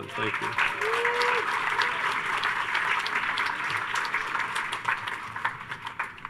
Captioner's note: audience cheers and applauds